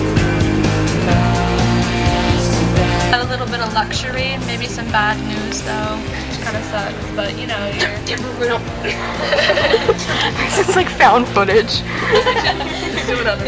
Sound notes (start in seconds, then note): 7.7 offscreen whisper; 8.8 laughter